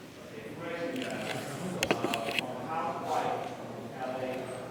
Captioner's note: crowd chattering